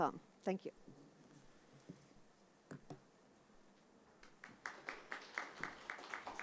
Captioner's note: applause